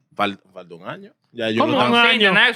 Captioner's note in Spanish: Hablando en idioma extranjero